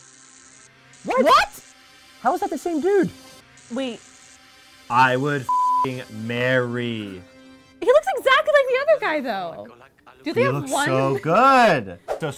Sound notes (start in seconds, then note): 0.0 zaps; 5.4 beep